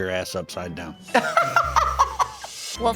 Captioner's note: laughs